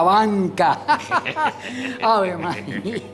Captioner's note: laughs